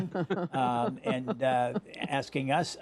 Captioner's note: laughter